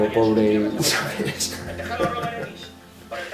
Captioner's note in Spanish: Risas